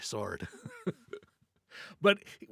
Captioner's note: laughs